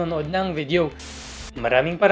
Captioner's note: static sound